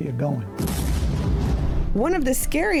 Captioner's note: bomb exploding